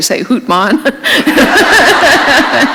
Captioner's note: laughter